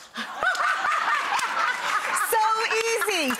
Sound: everyone laughs

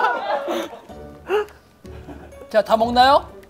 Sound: continues to chew

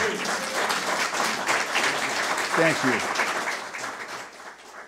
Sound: audience applause

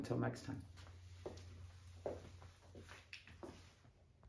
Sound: footsteps tapping

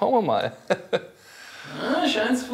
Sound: laughs

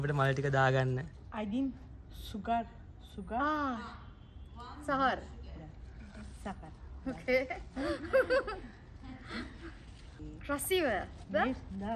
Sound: friendly chatter

